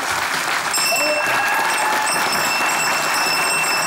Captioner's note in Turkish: Zil sesi